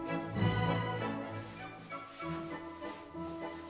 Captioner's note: footsteps